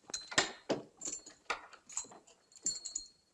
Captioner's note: lock clicks